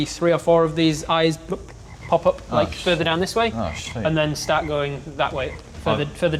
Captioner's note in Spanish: blop